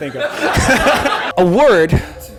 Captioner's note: laughter